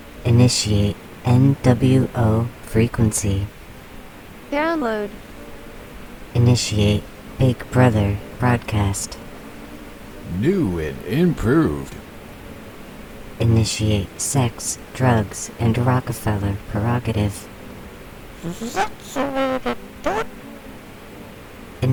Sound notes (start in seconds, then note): 0.0 female voice, soprano; 0.2 The Buzzing voices; 4.5 female voice, mezo-soprano; 6.4 The Buzzing voices; 13.2 The Buzzing voices; 18.5 Mr. Punch, shrill, buzzing